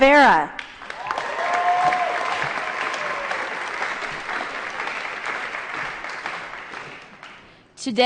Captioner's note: applause & Cheering